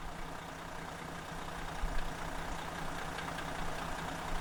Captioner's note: engine running